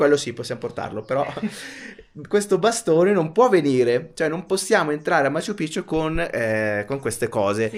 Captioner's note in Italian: risate